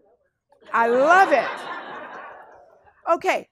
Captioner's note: class laughs